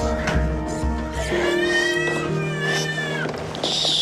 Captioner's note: baby crying